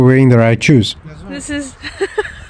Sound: laughs

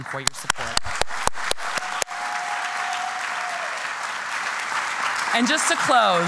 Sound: applause

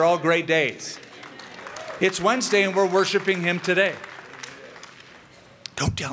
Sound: applause

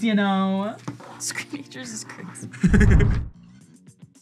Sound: both laugh

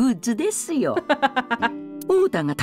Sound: chuckles

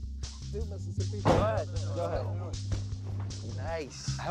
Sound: indistinct chatter

